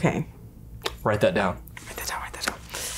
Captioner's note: whispers